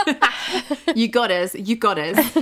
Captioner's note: laughing